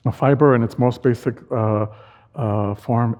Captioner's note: none